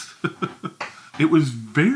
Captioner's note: chuckles